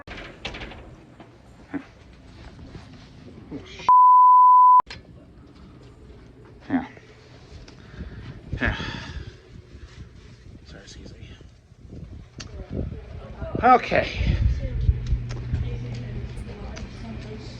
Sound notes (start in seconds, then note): 4.5 students chattering